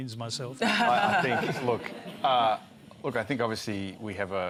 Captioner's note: laughter